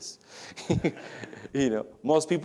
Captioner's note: laughs